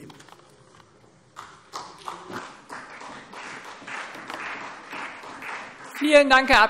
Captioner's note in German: Vereinzelter Beifall CDU und BÜNDNIS 90/DIE GRÜNEN